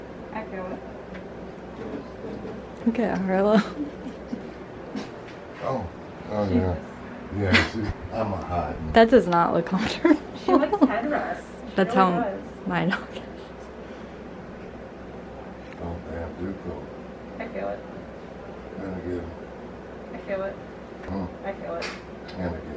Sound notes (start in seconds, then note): 3.5 chuckling; 9.9 laughs